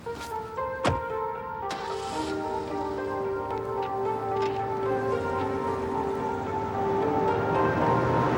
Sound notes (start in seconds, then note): 0.1 dramatic music playing; 1.7 engine revving